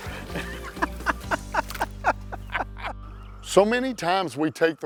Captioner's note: laughter